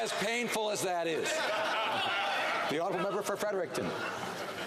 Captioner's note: some Applause